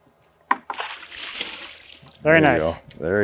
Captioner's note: water splashing